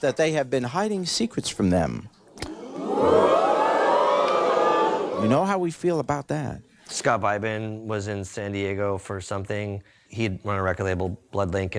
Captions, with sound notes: that they have been hiding secrets from them. (audience exclaiming) You know how we feel about that. - Scott Beibin was in San Diego for something. He'd run a record label, Bloodlink,